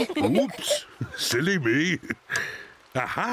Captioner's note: Peppa sighing